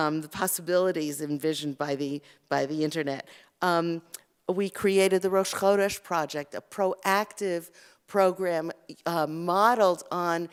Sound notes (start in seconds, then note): 5.2 Hebrew